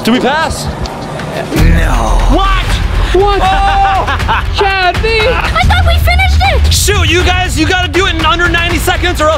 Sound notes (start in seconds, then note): 3.4 laughing